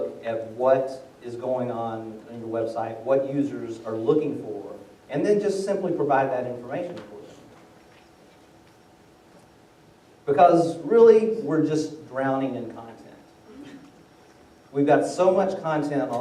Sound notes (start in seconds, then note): 13.4 laughter